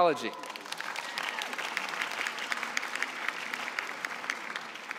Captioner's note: cheering and applause